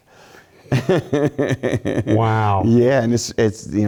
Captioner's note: laugh